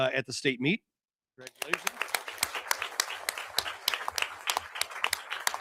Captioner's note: audience applauding